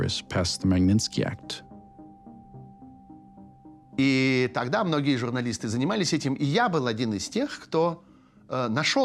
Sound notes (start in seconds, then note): 3.9 speaking Russian